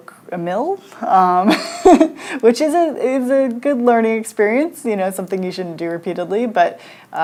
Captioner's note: laughs